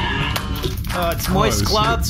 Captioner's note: vomits; groaning